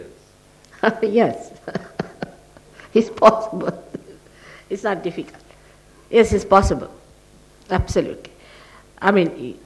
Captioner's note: shri mataji laughs